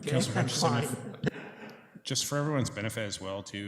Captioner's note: laughter